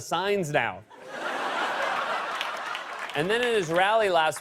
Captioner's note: laughter